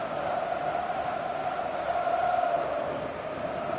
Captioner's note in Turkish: coşkulu tezahürat